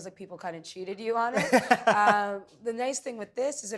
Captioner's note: laughing